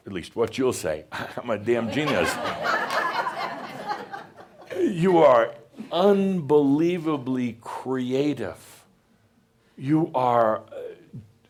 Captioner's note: laughter